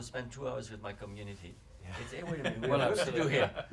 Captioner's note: laughter